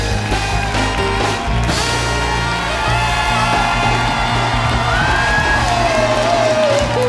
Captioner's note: cheers and applause